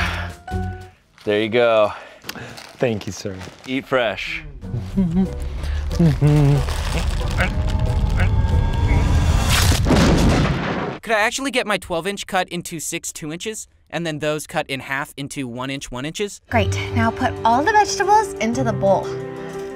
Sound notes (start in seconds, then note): 4.6 man humming; 7.6 man grunting